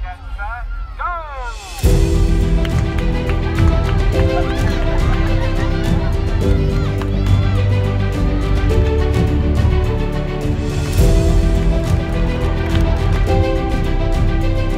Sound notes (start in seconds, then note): 2.1 dramatic music; 4.0 crowd cheering; 6.3 dramatic music